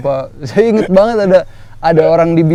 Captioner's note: laughs